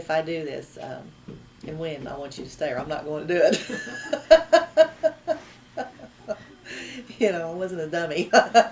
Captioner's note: laughs